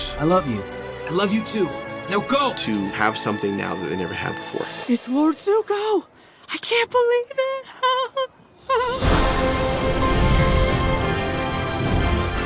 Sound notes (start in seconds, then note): 5.7 fanboyish gasps